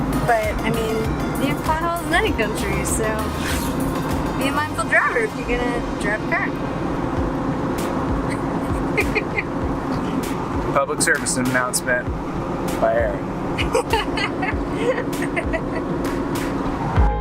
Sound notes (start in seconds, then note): 8.3 laughs; 13.5 laughs loudly